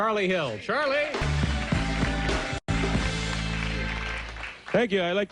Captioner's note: audience applauds